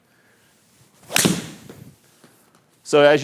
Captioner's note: ball cracking